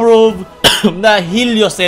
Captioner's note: cough